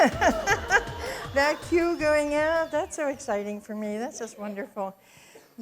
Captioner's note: laughs